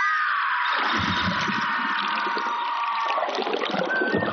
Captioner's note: birds singing